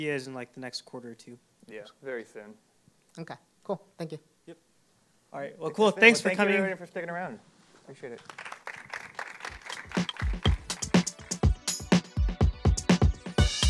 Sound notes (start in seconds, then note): 8.1 applause